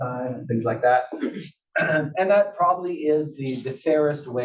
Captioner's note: cough